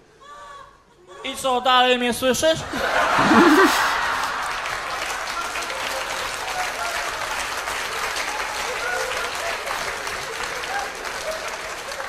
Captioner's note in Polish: Aplauz